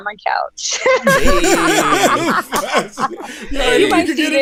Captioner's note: laughter